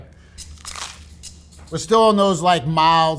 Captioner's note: sandwich rustling; upbeat music